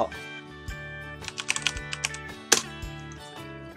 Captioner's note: typing Sound